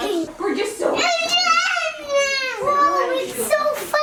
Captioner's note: baby screams